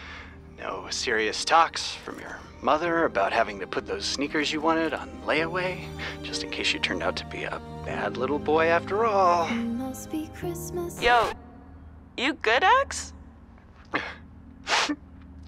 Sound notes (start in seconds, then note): 10.4 record scratching; 13.9 Axel sniffles